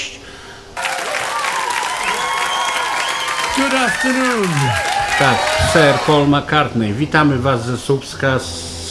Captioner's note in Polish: Aplauz